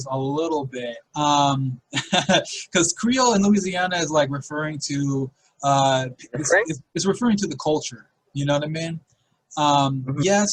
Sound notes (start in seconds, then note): 1.3 laughing